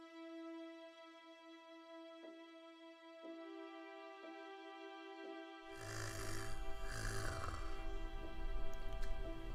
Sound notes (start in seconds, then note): 0.2 string music playing; 5.7 Phoebe snoring